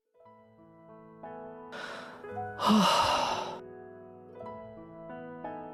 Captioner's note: sigh